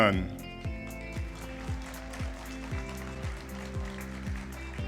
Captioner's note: applause